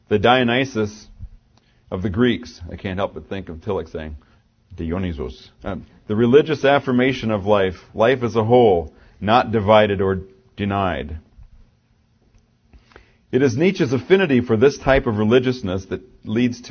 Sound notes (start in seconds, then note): 4.5 german accent